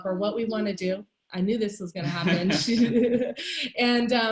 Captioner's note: laughing